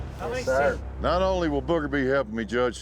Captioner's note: cowboys agreeing